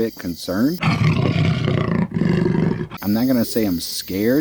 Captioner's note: animal growling